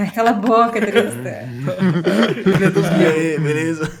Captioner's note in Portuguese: Risos